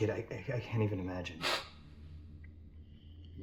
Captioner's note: sniffle